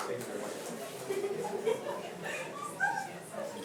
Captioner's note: soccer team members laughing; soccer team members speaking faintly